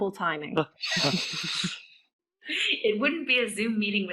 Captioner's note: laughing